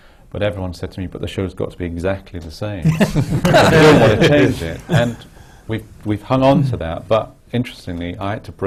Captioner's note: laughter